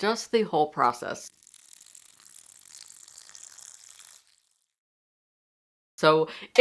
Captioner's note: milk pouring